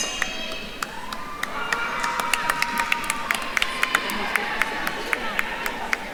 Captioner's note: attendees cheering and applauding